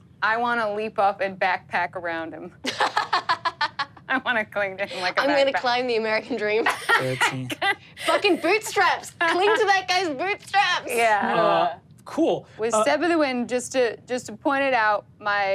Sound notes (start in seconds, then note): 2.7 laughs; 6.4 Sofia laughs